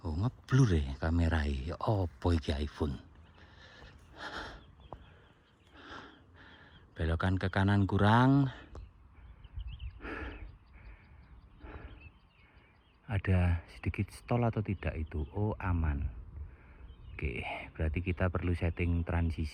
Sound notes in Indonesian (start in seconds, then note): 5.7 menghela napas